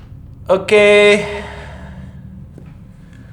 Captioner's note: echo